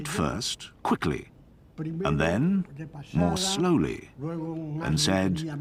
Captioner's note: speaking foreign language